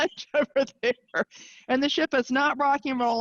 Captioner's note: chuckling